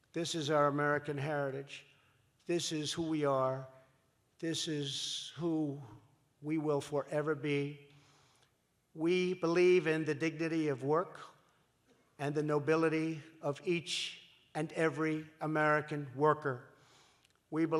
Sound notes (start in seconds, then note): none